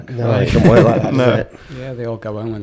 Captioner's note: laughing